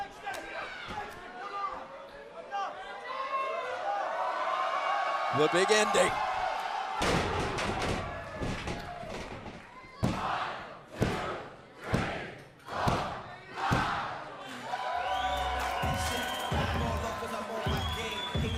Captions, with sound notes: >> THE BIG ENDING. >> [CROWD CHEERING]